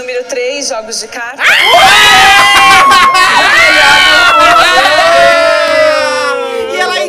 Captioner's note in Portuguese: gritos